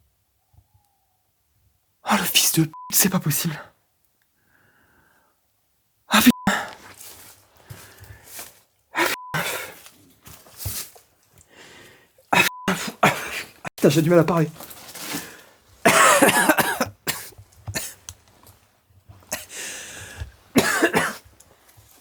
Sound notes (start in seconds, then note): 11.4 is really struggling to catch his breath; 15.8 coughs